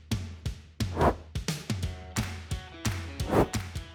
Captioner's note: animation whooshes; animation whooshes